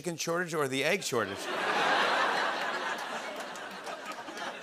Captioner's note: laughter